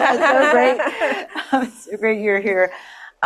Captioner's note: audience laughs